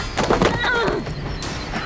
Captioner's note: Promise groans